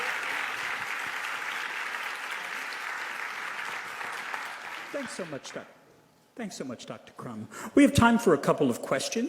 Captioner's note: applause